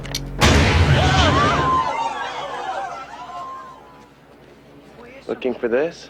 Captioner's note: explosion booms; people scream